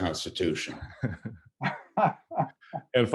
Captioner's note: laughter